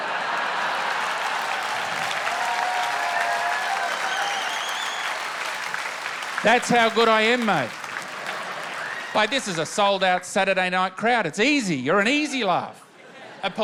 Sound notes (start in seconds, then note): 0.0 laughter and applause; 3.0 cheering and whistling